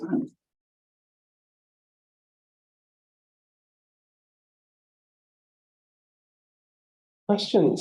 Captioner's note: silence